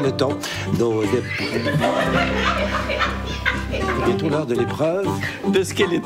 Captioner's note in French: rires